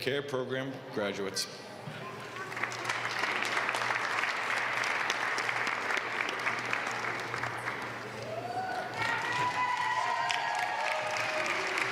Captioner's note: applause